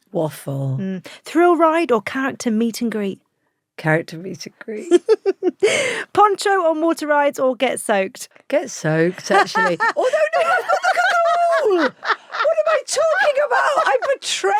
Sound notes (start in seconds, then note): 4.8 laughs; 11.7 laughs